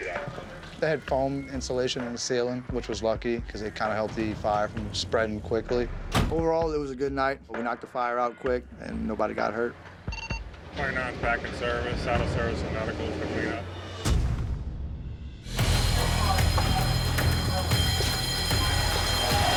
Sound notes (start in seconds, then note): 15.2 alarm ringing